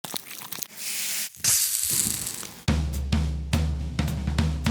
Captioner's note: pan sizzling; upbeat music